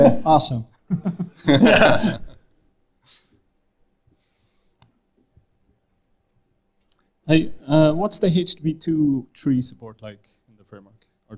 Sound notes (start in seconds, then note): 0.8 all chuckling